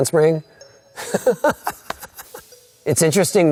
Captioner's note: laughing